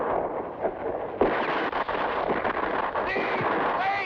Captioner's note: gunshots blast